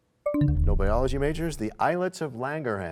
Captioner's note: bell chimes, time expires